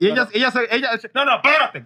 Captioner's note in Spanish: Hablando en idioma extranjero